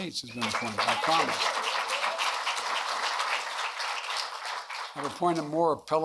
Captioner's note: applause